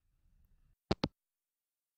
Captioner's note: hangup